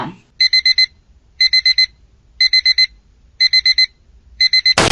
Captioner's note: beep beep beep beeeeeep